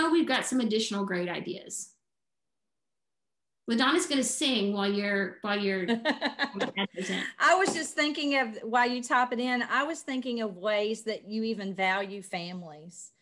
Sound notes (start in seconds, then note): 6.0 laughs